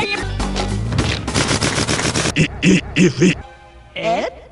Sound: reversed tail sounds

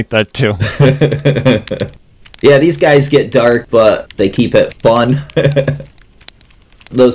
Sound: laughter; laughs

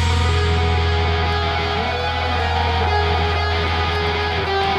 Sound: audience cheering

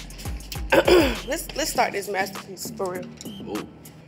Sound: coughs

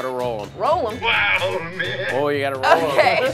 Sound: "Wow, man" sfx

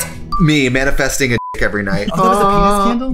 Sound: beep

